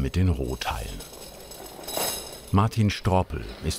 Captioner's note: clinking